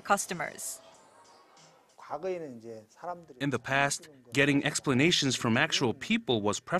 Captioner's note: Korean